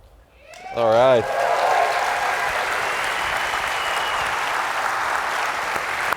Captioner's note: applause, cheers